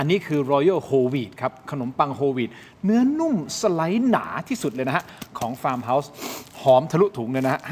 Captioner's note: takes a deep breath